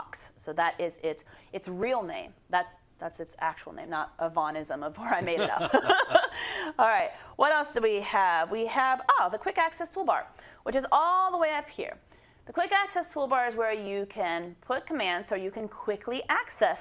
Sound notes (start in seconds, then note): 5.1 laugh